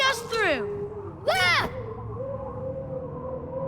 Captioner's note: moaning sound